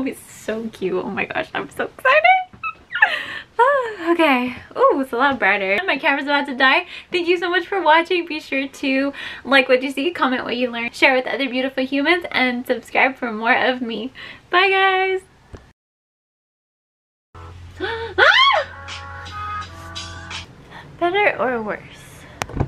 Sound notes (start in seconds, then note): 2.8 squeals; 18.1 screams Ahh!